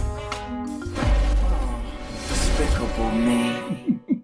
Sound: sighs; chuckles

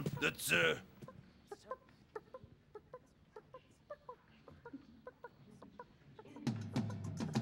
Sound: hen hopping and clucking outside

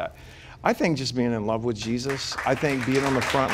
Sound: applause

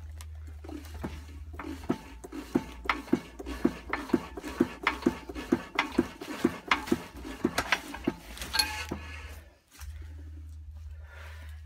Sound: clunka clunka clunka clunka ting whoosh woosh

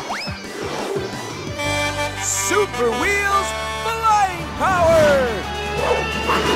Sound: honking

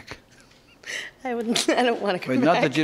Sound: laughs

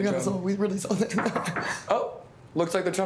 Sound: knuckles rap

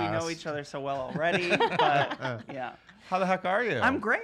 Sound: laughter

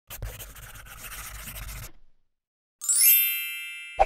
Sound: pencil scribbling; logo sparkles

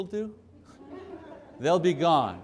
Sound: laughing

